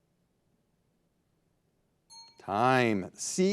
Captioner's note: signal dings